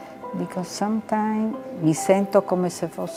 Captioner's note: speaking in foreign language